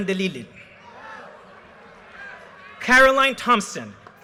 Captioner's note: audience cheers and applause